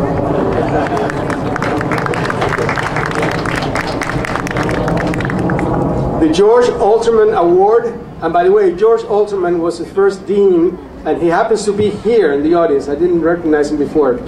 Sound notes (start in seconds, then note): 0.2 audience applauding